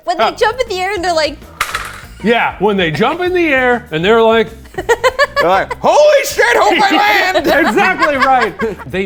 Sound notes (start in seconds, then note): 4.7 laughing